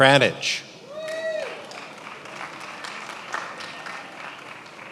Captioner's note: attendees applauding